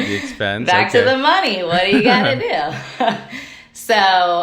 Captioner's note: chuckles